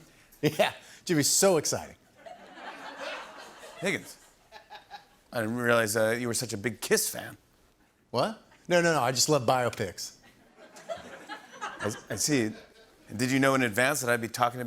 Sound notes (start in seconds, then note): 1.9 light laughter; 2.2 chuckling; 10.2 light laughter